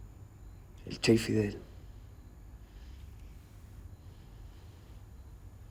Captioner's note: Ramon speaks in foreign language